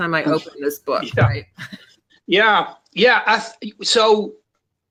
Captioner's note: chuckles